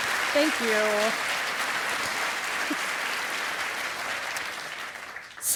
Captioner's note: applause